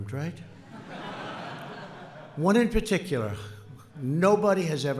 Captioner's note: laughter